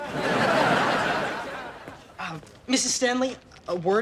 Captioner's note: audience laughs